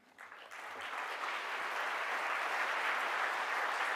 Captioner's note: audience applause